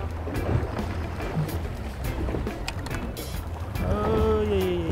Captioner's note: water sloshing; mellow tropical music